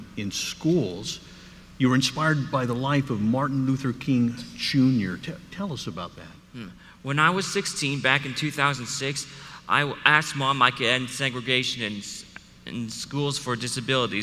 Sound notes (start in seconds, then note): none